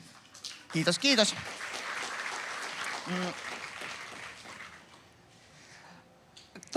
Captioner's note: aplodeja